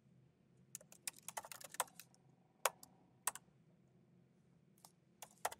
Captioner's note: keyboard clanking continues